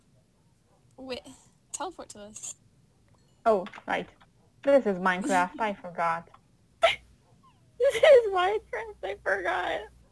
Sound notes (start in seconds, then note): 6.8 laughs